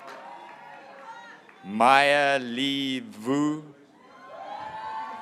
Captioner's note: graduates cheering